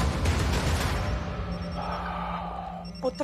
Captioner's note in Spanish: Suena la otra línea